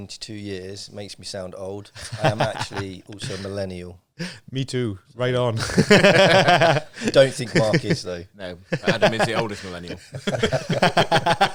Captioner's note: laughing